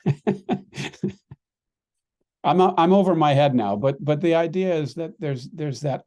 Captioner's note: risos